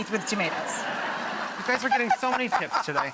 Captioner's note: audience laughs